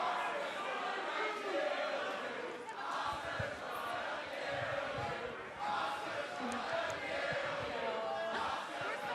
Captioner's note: fans chanting